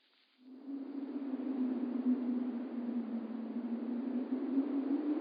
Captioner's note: wind howling